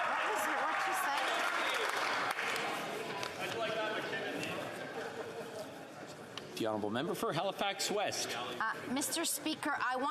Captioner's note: yelling